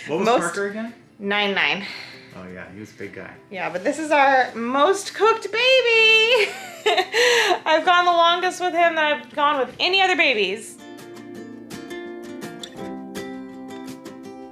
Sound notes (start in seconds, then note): 6.4 laughs; 11.0 gentle acoustic music